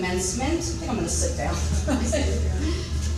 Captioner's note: laughing